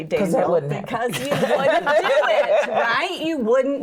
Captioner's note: laughs